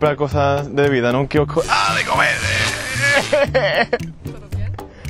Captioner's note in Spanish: Gritos